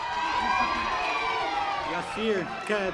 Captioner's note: audience applause